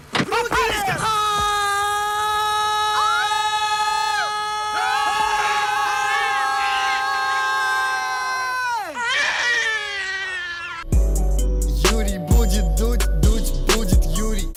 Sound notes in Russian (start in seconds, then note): 4.8 все кричат; 8.9 крик новорожденного; 10.9 музыкальная заставка